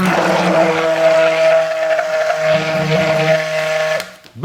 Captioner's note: blender whiring